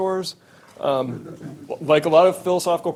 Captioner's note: audience member laughing